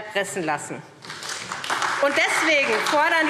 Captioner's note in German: Beifall SPD